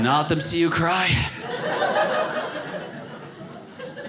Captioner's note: audience laughing